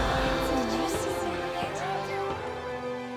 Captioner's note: gasping